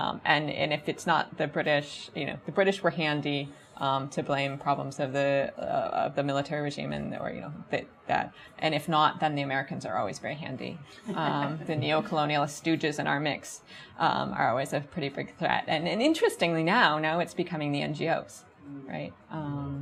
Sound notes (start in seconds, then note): 11.0 audience chuckles